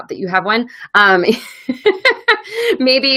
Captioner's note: laughs